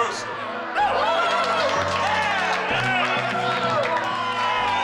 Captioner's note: spectators cheer